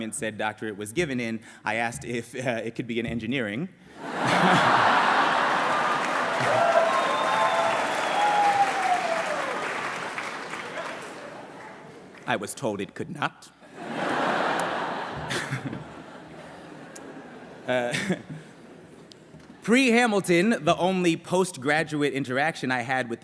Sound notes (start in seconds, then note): 4.0 laughter; 7.1 applause; 13.7 laughter